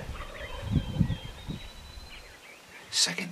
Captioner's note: turkeys gobbling